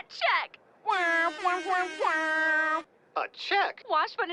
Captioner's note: Grey mimicks airhorn